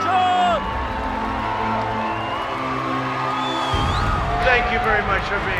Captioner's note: crowd cheers